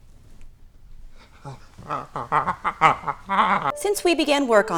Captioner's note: moaning and convulsing